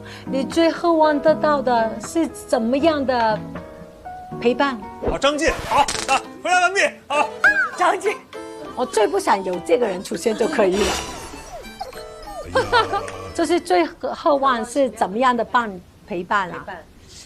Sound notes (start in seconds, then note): 10.4 shivering